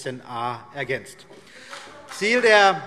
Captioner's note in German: Beifall BÜNDNIS 90/DIE GRÜNEN